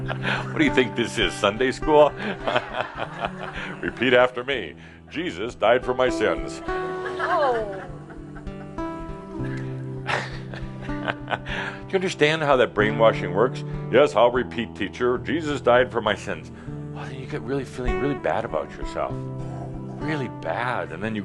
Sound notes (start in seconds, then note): 2.1 Adamus chuckles; 9.2 chuckling; 10.0 some chuckles